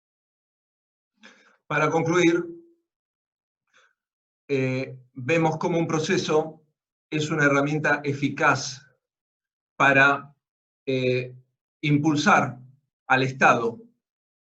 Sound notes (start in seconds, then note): 0.8 Spanish